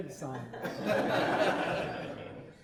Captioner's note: laughing